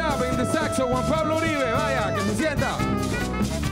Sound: speaks in Spanish

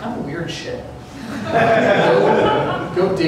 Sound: laughter

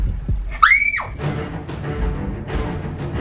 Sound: screams; intense music

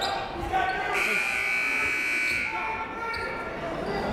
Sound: buzzer

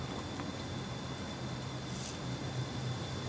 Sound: speaking German

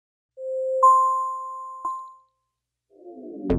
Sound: chimes

